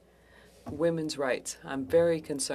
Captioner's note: speaking French